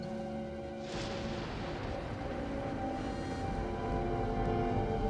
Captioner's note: thunder rumbles